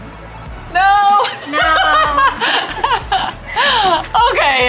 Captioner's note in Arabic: يضحك